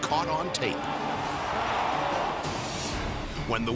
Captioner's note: track announcer calling race; edgy dramatic music